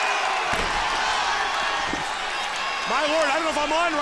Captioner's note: crowd cheering